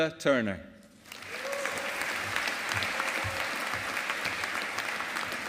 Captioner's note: audience applauding